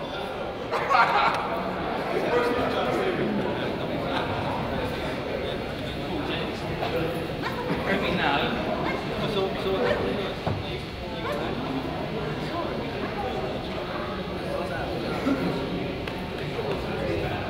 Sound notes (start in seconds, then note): 0.4 crowd laughs